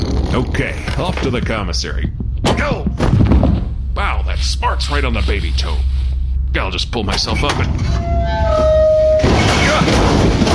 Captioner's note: thud